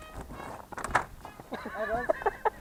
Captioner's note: loud crack